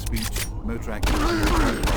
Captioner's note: grunting